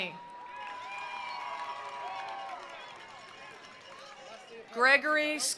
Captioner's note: attendees cheering; attendees applauding